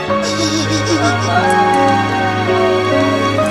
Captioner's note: wailing